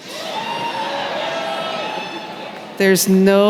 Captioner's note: cheering